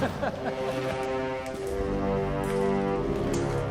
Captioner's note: laughter